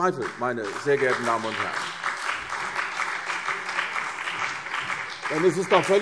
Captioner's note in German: Beifall CDU und BÜNDNIS 90/DIE GRÜNEN